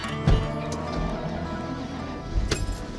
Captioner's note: truck starts